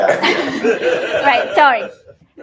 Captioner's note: laughter